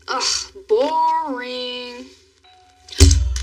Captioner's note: doorbell l rings